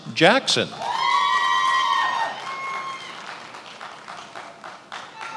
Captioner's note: attendees applauding